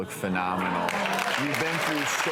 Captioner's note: audience applauds